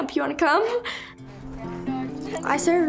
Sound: chuckles

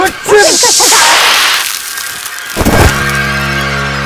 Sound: Ted yells; ice crackling; dramatic tense music

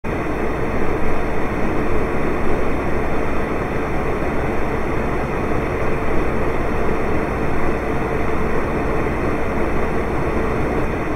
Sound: space heater sounds

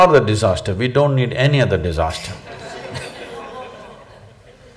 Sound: laughter

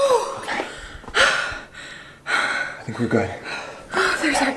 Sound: breathes heavily

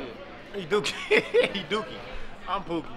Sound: laughing

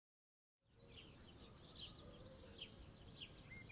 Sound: birds chirping

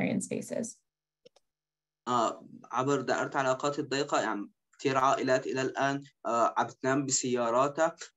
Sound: speaking in Arabic

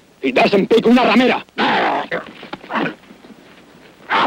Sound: speaks in foreign language; men grunting

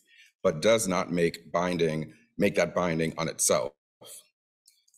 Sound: none

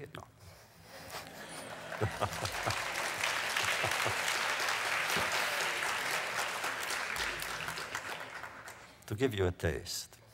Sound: laughs; applause

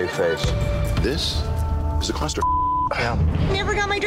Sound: beep

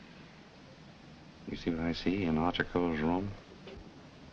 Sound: whispering

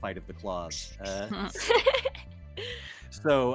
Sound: laughs

